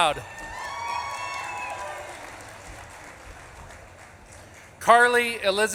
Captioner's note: audience claps and cheers